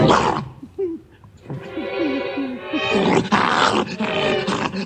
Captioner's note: dog growls and whimpers